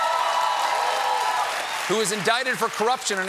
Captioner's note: cheers and applause